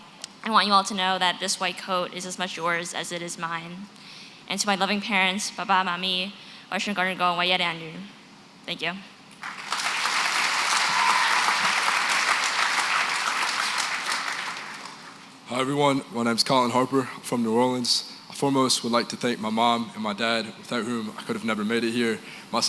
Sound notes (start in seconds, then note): 6.9 non-english; 9.4 applause